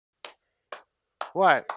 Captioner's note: clapping